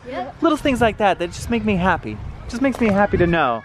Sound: none

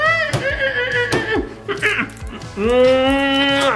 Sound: laughs; dad grunts

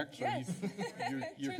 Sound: laughter

